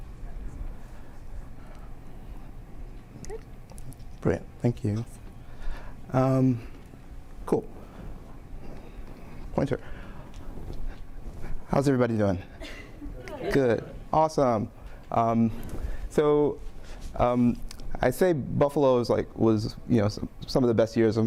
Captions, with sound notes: Great, thank you. (lady speaking off mic) Cool. Pointer. How's everybody doing? (audience chattering) Good, awesome. So I say Buffalo was like some of the best years of my life.